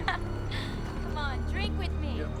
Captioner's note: laughs